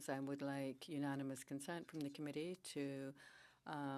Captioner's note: speaking French